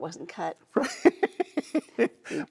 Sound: laughing

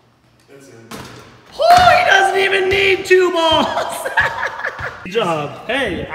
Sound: laughs

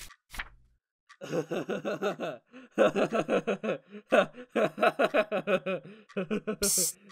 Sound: Layz Laughing

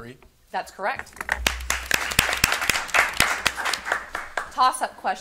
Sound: audience applauding

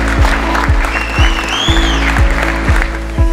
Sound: audience applause

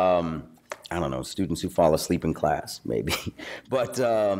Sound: chuckles

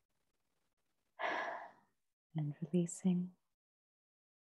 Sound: exhales

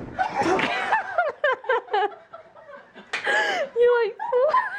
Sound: laughter

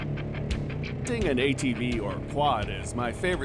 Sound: atv engine running

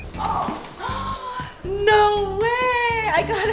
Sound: gasps

